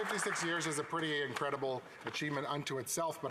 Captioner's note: applause